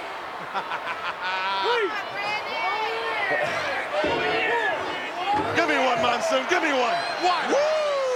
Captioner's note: laugh